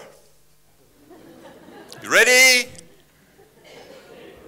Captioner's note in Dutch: publiek lacht